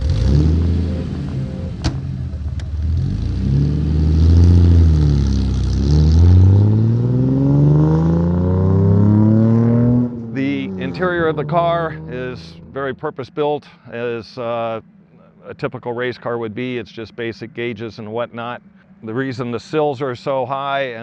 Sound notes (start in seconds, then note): 0.2 engine starting; 5.8 car accelerating strongly